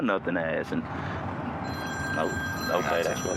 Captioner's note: phone ringing